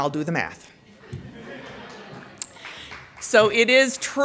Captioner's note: laughter